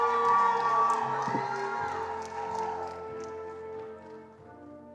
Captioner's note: attendees applauding